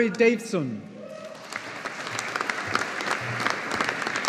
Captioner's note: audience applauding